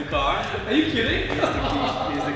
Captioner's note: laughing